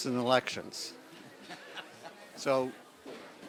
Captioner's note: laughter